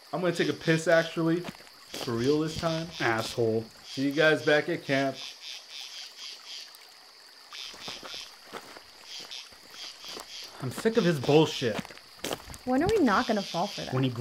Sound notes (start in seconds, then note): 7.6 footsteps crunch; 9.8 insects buzz